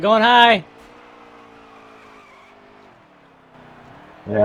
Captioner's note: screeching